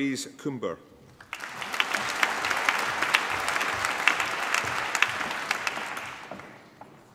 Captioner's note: applause